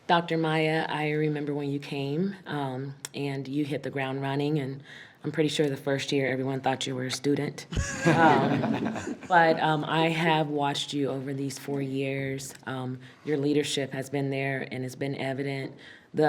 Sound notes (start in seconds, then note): 7.7 group laughs